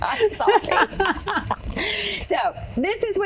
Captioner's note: laughing